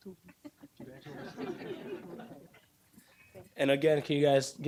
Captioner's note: audience laughing